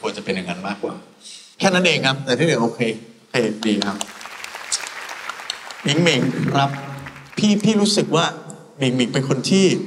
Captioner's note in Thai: ปรบมือ